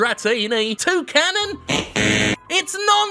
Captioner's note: buzzer buzzes